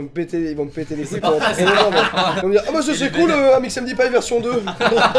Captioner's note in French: Rires